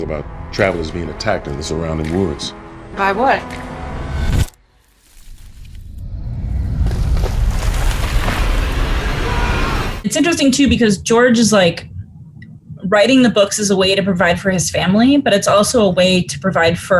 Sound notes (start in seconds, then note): 6.1 suspenseful music; 8.5 screaming